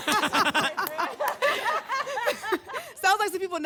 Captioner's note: laughter